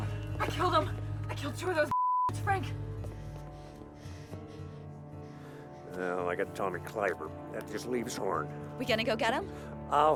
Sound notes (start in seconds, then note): none